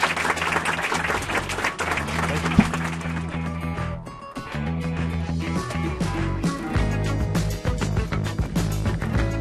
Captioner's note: applause